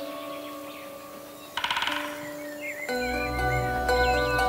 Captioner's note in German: Specht hämmert